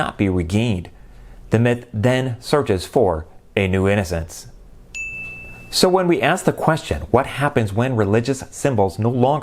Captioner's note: chime